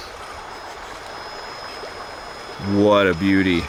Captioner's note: water raging